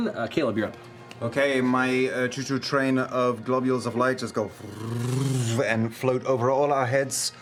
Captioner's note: whirring